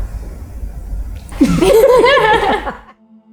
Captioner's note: both laugh